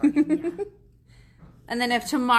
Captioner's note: laughs